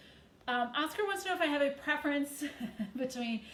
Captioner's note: chuckles